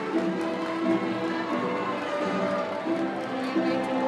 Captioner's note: cheering and applause